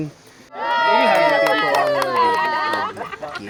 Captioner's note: cheers